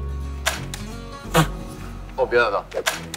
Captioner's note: laughing!